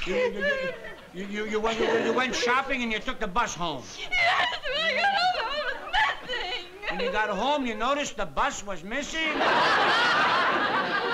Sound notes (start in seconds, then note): 3.9 sobbing